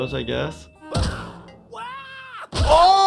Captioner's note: Nutty yelling